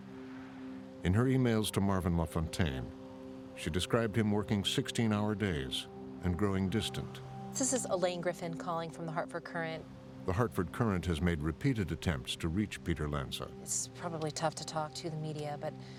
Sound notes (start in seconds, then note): 8.8 on phone